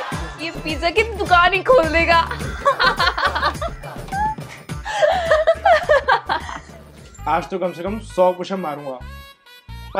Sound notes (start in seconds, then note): 2.4 laughing